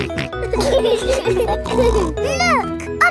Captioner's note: laughing